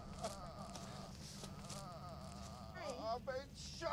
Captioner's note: Jack sobbing